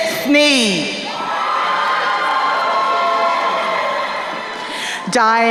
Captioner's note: crowd cheering